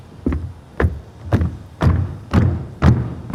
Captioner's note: stomping